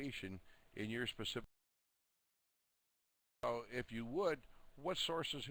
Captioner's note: audio drops